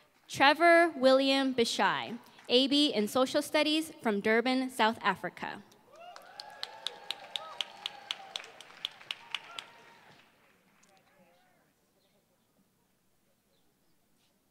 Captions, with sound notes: Trevor William Bishai, AB in social studies from Durban, South Africa. [APPLAUSE]